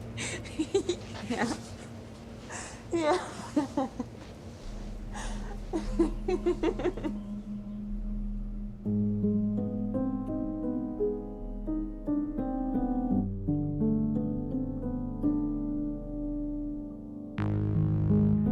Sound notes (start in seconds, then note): 5.0 Elisa laughing; 9.2 eerie piano music